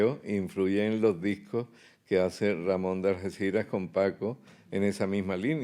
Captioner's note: speaking in Spanish